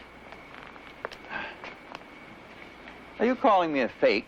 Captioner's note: sigh